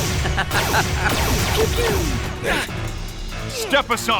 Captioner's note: sinister chuckling